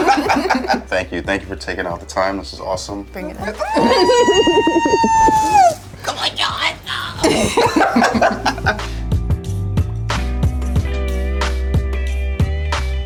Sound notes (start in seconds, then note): 3.6 laughing; 3.6 squealing; 6.9 laughing; 10.4 slow music